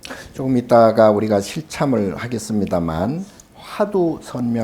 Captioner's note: speaking Korean